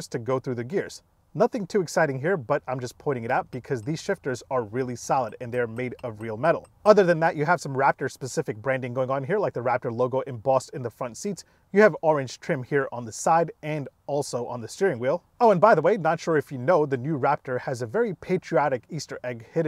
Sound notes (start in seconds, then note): none